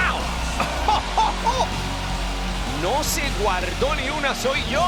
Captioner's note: laugh